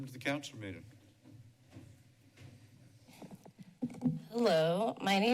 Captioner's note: silence